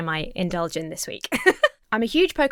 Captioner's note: laughs